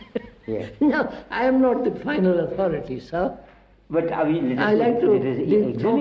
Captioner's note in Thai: หัวเราะ